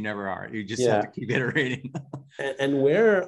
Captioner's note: laughing